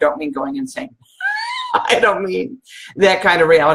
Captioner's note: laughs